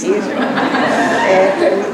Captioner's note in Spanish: laughs